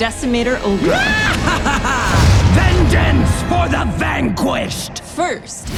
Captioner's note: Decimator Olgra cackles